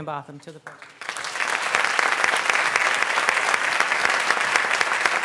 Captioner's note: applause